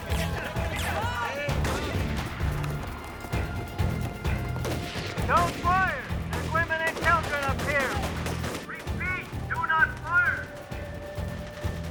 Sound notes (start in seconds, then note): 2.2 gunshots firing; 11.6 suspenseful music